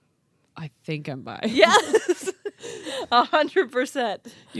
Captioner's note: laughs